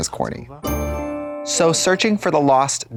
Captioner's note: bright chime